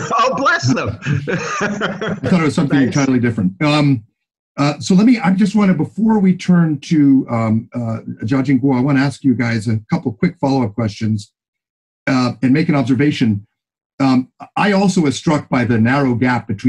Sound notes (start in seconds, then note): 1.8 laughing